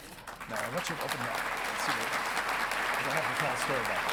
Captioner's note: audience clapping